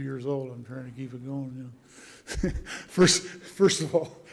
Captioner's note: laugh